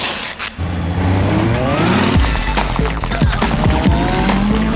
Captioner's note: dresses ripping